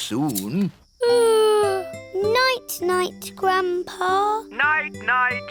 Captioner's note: yawns